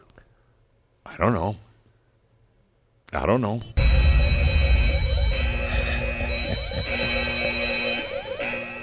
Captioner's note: loud buzzers and sirens go off and Adamus chuckles